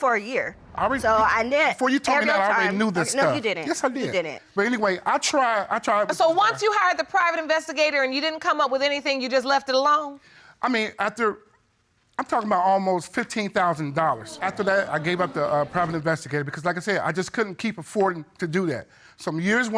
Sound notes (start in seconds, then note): 14.1 audience exclaiming